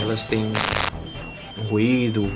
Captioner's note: electronic noise